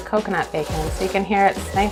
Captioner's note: crunching